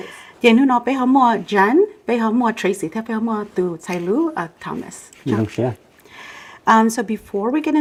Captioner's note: Speaking in Hmong